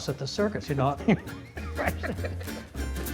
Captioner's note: laughing; bright rhythmic music